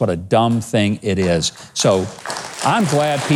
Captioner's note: audience clapping